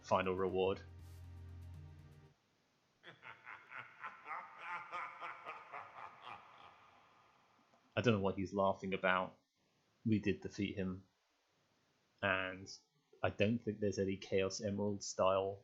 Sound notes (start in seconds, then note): 3.0 evil, but rather less demonic, chuckling